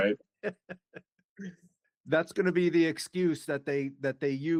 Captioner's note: laughing